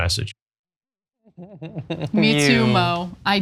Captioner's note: laugh